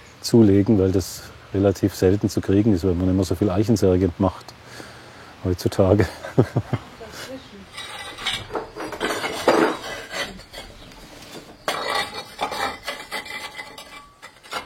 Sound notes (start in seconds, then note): 6.0 laughter; 7.7 clinking noises